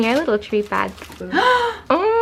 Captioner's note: gasp